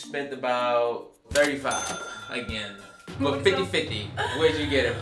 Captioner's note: ka-ching